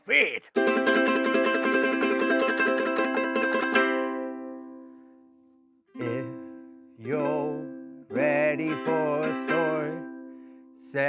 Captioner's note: silly noises